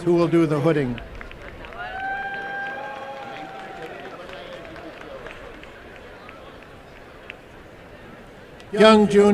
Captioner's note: applause